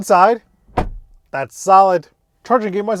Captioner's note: car door thumps